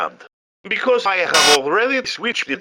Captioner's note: electrical Buzz Sound Effect